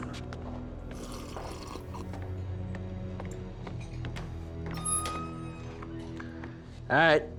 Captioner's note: slurping drink